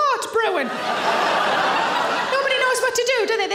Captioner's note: audience laughing